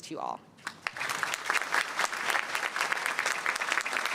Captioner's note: applause